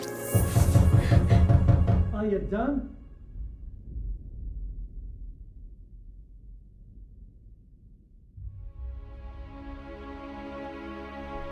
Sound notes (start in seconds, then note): 0.7 loud door knock; 4.1 storm fades out